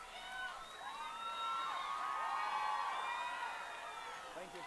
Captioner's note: audience cheering